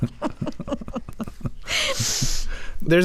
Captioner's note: laughter